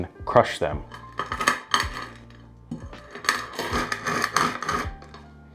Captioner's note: peppercorns cracking